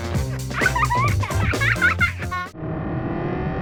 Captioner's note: children's laughing